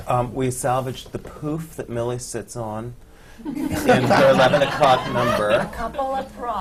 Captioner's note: laughter